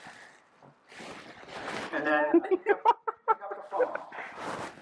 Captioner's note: laughing